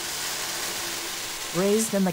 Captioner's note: grain pouring